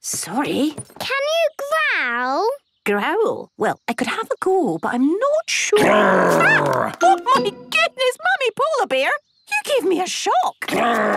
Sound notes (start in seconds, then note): 5.8 loud growl